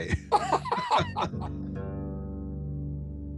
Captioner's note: both laughing